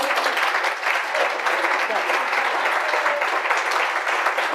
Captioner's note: audience applauding